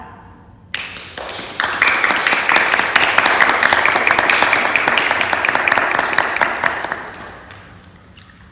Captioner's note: applause